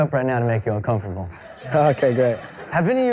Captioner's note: laughing